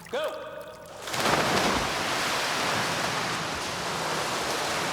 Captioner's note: water splashing